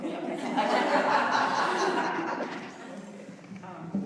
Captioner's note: loud laughter